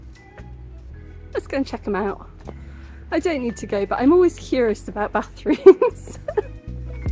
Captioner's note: laughing